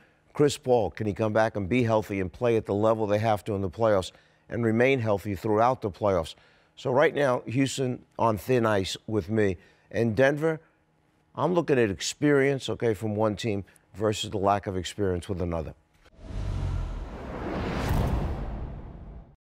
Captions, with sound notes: Chris Paul, can he come back and be healthy and play at the level they have to in the playoffs and remain healthy throughout the playoffs? So right now, Houston on thin ice with me. And Denver, I'm looking at experience, OK, from one team versus the lack of experience with another. [swish] [slam]